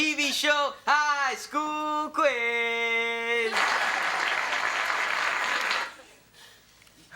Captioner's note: prerecorded applause plays